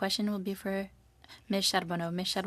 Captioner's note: speaking French